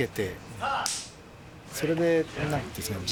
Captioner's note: slate claps